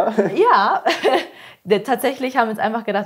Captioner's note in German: Lachen